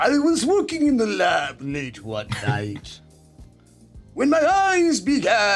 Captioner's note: SungWon laughs